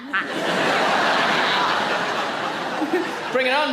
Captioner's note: audience laughing